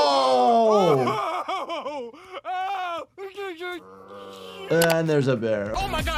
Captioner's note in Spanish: Homero gritando de dolor